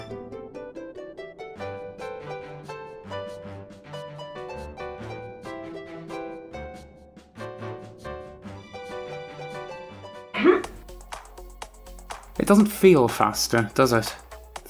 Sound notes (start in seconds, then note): 10.3 grunt